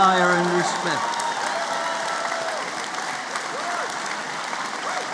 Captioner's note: applause